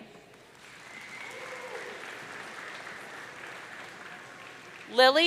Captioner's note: audience cheering